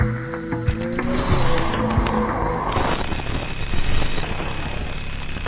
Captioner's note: static hissing